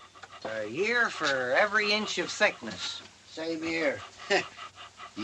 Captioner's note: chuckles